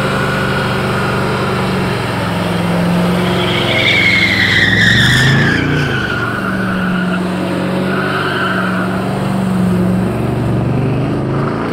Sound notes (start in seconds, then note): 3.8 engine roars; 3.8 tires squeal